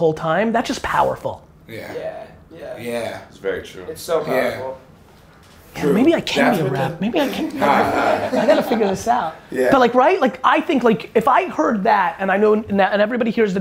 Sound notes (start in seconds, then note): 7.1 group laughter